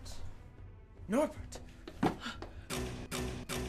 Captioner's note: gasping; anxious music